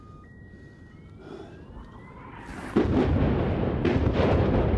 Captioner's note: explosions